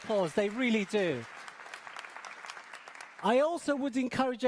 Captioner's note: applause